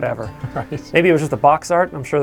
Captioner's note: chuckling